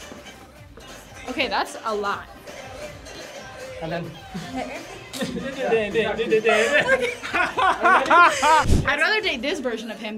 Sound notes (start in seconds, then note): 6.1 both laugh